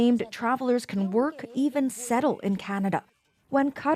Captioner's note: speaking alternate language